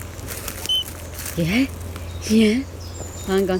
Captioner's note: beep; birds chirping